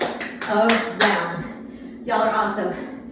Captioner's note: clapping